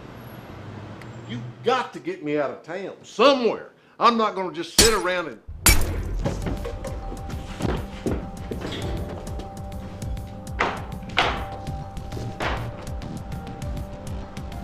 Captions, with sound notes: - You've got to get me out of town, somewhere. I'm not gonna just sit around and. (glass cracking) (body thudding) (tense music)